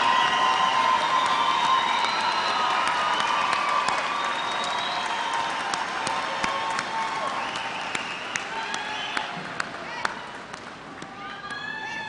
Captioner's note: applause